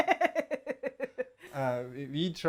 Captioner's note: laughter